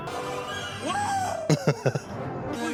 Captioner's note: laughing